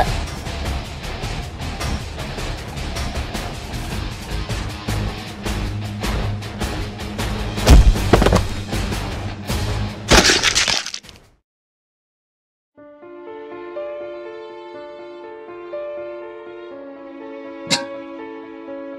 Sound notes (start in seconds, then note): 0.1 battle Music; 7.6 hit and knock down SFX; 10.1 gore SFX; 12.8 sad Music